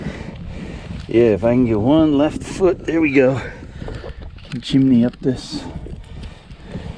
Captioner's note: sounds of climbing and rocks moving; breathing